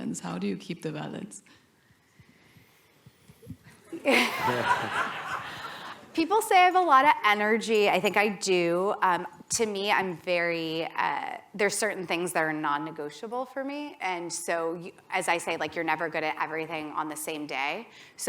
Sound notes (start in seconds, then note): 3.8 laughter